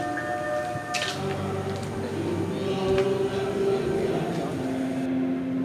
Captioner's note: chanting